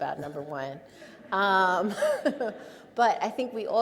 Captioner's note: audience laughs